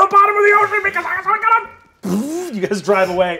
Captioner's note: imitates whirring